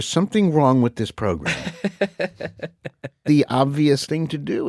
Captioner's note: laughs